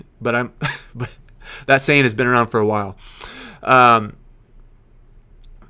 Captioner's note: laughing